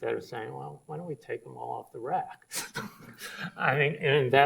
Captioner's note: laughs